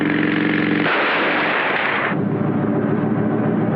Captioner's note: gunshot